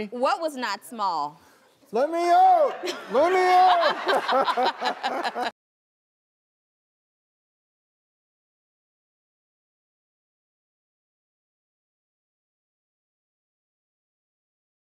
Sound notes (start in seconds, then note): 2.4 all laughing